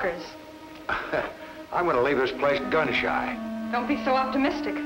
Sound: chuckles

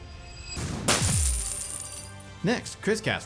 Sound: cards booms and spatters

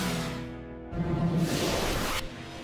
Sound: suction noises

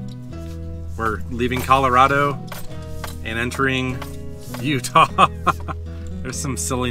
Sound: laughter

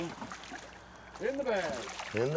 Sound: fish splashing

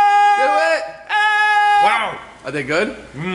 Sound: screaming

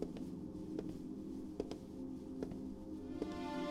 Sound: slow Footsteps

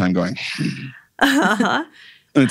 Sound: laughing

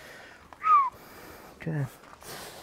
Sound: whistles

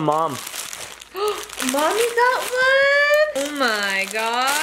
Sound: gasps

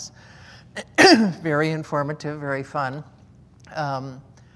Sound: coughs

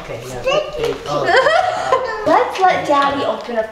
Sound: laughing

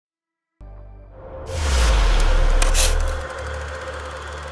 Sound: logo whooshing

